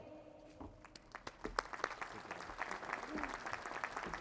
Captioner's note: applause